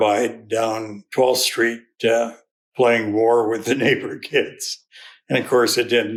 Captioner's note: laughs